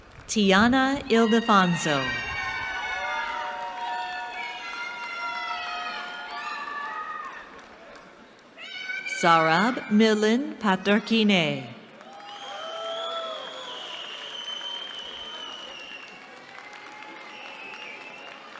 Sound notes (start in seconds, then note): 1.1 cheering; 11.8 cheering